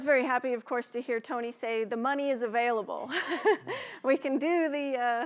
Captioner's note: laughs